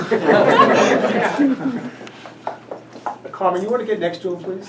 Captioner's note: audience laughs